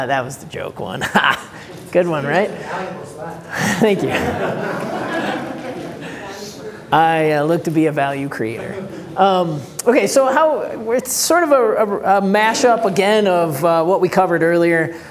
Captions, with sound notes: That was the joke one, good one right? [crowd chatter] Thank you. [crowd laughter] I look to be a value creator. Okay, it's sort of mash up again of what we covered earlier,